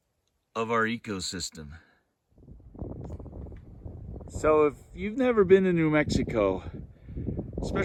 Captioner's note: wind noise